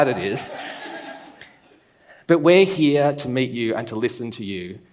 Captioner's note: laughs